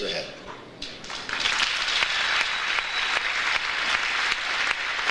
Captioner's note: audience applauds